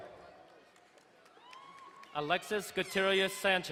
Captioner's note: woman cheering